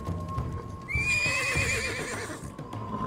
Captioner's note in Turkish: At kişneme sesi